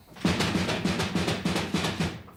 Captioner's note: pounding continues